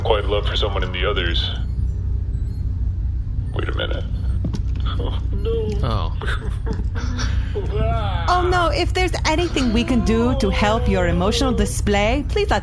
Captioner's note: sobbing